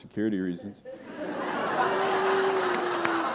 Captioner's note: laughter